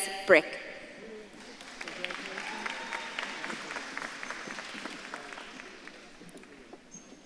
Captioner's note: audience claps and cheers